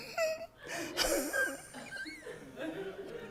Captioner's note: whizzing like with asthma attack